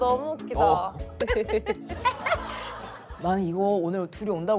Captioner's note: laughs